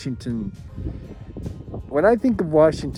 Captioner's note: wind flapping